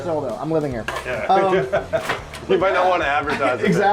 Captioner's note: laughing